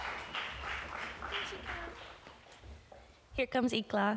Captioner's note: applause